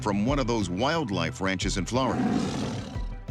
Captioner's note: leopard roaring